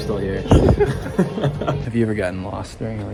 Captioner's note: both laughing